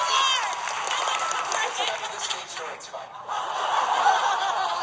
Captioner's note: audience laughing